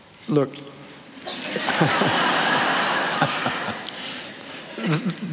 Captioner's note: laughter